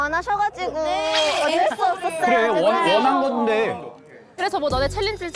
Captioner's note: sound effect scratching each syllable